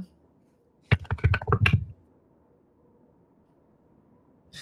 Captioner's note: dice clank